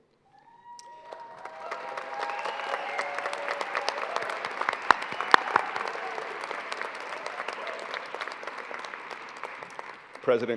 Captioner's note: applause